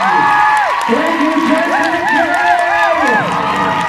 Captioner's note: cheers, applauds